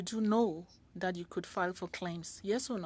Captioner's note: speaking French